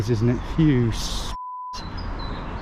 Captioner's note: beep